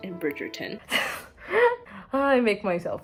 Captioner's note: insert elegant yet sincere laugh here